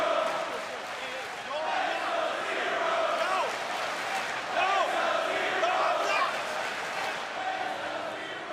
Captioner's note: fans chanting